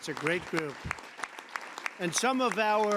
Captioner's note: applause